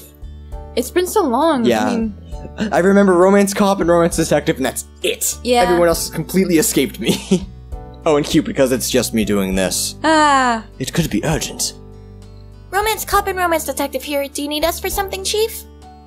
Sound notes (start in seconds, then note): 7.1 laughs; 9.1 deeper voice; 10.1 happy noise